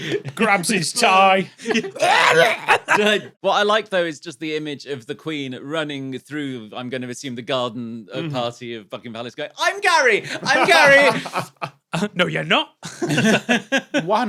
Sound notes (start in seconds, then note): 1.9 chokes; 10.2 laughs; 12.8 group chuckling